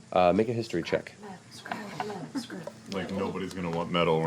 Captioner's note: whisper chants